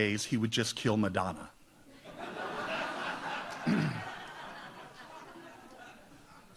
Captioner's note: audience laughs